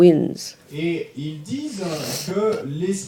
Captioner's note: audience member speaks in French